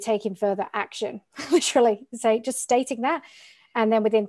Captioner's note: laughing